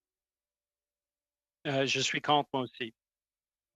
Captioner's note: speaking in French